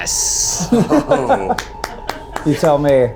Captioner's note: contestants laughing